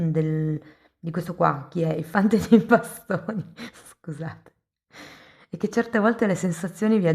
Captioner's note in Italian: risate